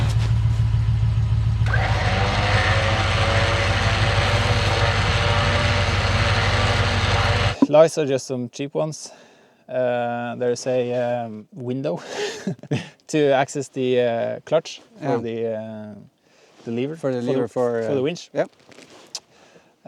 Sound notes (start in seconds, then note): 0.0 engine revving